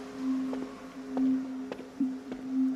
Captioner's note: footsteps